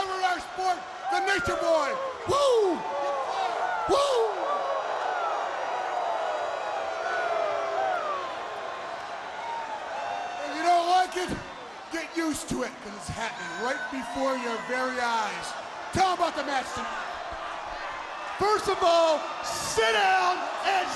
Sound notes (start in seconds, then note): 4.7 crowd cheering